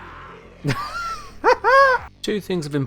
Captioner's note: wheezes and laughs